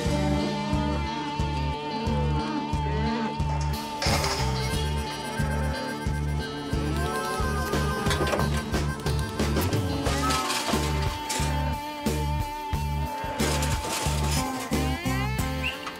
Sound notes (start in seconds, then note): 0.0 mooing; 3.6 clanking sound